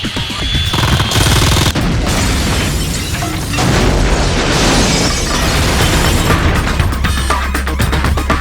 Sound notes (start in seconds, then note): 0.6 gunfire; 1.6 explosion